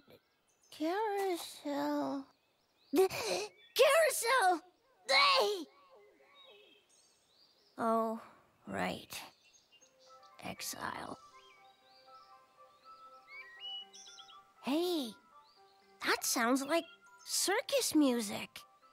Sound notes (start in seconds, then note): 4.5 frightened gasp; 11.9 birds chirp and in the distance some music plays